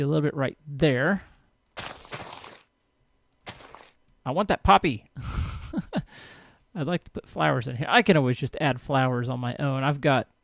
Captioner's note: laughs